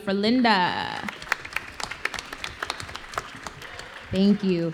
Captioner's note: applause